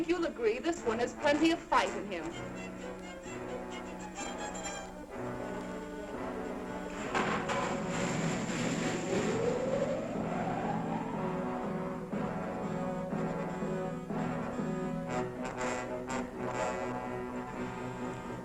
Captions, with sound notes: I think you'll agree this one has plenty of fight in him. (machinery whirring) (dramatic music)